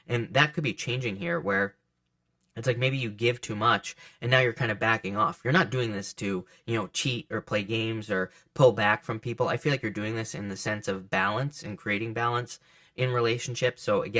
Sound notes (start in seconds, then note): none